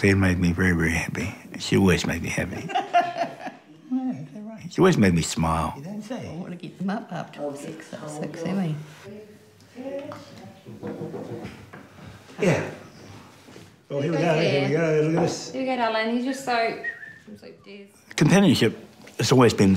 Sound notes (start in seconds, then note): 2.6 both laugh